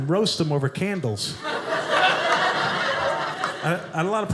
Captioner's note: audience laughing